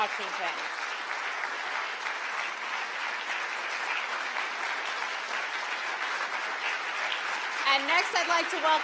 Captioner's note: applause